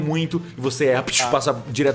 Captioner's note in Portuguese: som de tiro